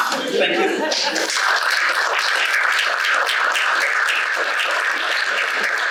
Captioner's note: audience applauding